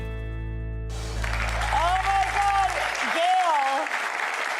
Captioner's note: audience claps